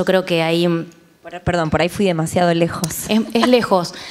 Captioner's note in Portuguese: Risos